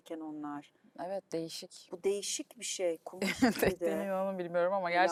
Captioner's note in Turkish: kahkaha